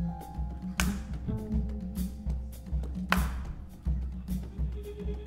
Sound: clapping rhythmically

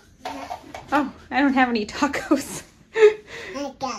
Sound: mom Laughing

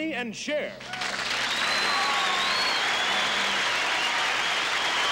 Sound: audience applauding and cheering

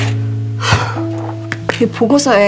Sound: frustrated sigh

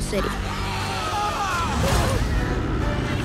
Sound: people yelling

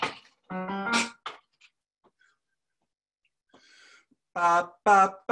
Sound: plucks keyboard keys

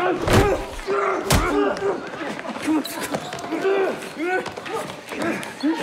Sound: grunting

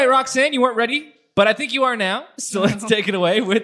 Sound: laughs

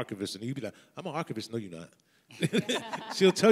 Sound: laughs

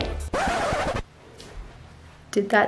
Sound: record Scratch; flatulence

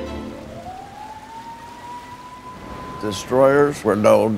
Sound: siren

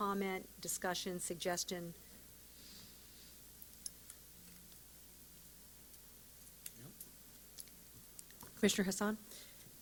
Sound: silence

